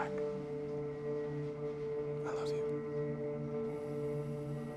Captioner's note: whispering